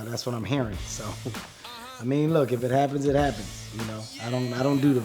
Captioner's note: chuckles